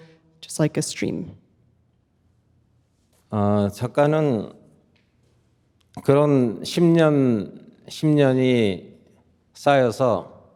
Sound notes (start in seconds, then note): 3.1 speaking in Korean